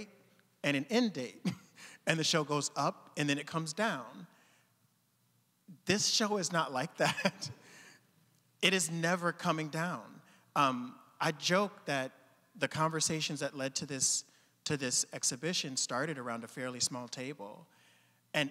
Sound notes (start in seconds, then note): 1.4 chuckling; 7.0 chuckling